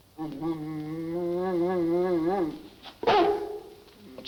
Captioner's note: Devil grumbling; Devil barks